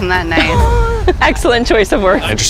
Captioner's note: chuckles